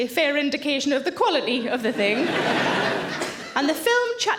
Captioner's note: audience laughs